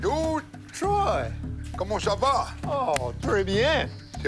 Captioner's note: both speaking French